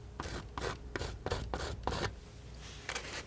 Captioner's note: scratching